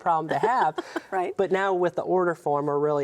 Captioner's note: laughs